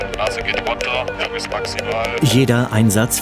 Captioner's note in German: Piepssignale